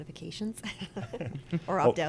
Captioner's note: laughs